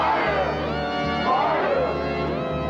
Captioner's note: echoing